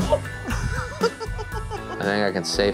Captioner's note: cameraman laughs